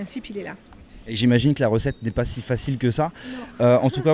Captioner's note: loughing